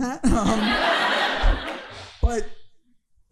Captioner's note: audience laughing